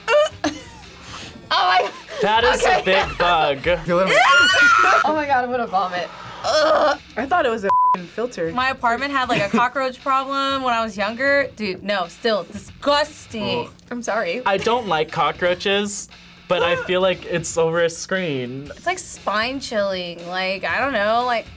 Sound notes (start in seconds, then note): 1.6 laughs; 4.1 screams